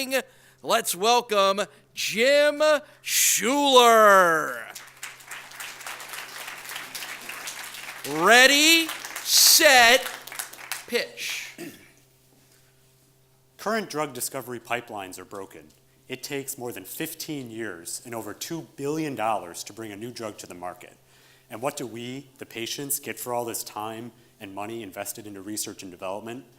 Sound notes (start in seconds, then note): 4.6 audience applauds